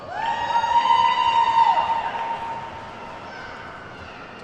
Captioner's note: attendees whooping